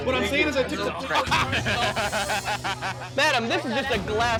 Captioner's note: laughter